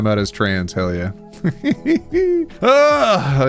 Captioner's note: laughs